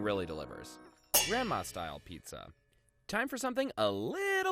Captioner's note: metal clangs